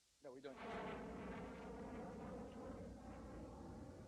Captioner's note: jet roaring